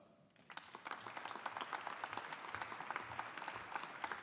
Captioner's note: audience applauding